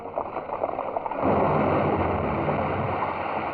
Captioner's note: explosion